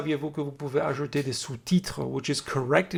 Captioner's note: french